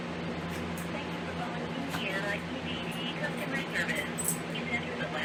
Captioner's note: on phone